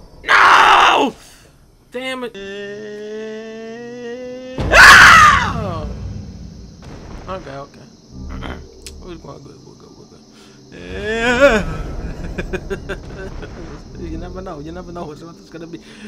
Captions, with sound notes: NOOO! Dammit. Eeeeeeeh... [ screams ] OK, OK. [ clears throat ] [ quietly ] We're good, we're good. Eeeeh... [ laughs ] You never know, you never know which one it's gonna be.